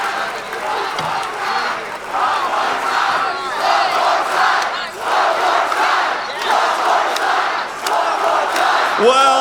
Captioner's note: crowd chanting "one more time"